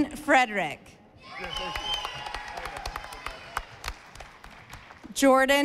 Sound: audience applauding

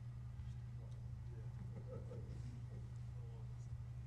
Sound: person from audience chuckling; indistinct audience chatter

